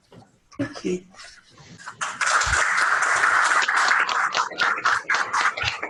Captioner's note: applause